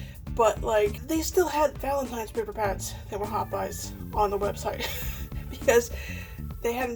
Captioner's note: laughs